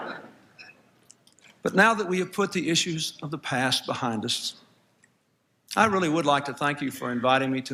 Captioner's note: laughter